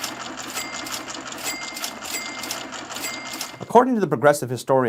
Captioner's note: cash register chiming